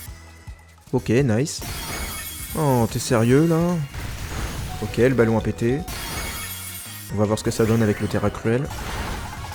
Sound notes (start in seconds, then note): 5.5 low HP sound